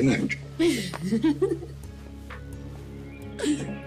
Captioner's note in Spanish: Risas